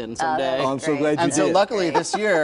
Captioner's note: laughter